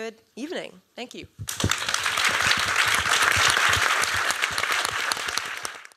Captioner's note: applause